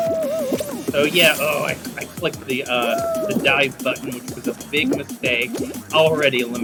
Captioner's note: groans